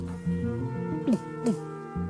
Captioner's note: bear growling in the back ground; makes guttural sounds